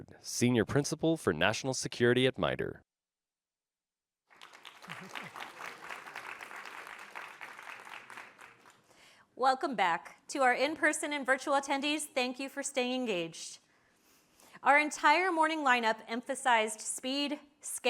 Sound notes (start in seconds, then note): 4.3 audience applauding